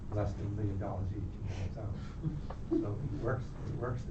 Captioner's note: laughter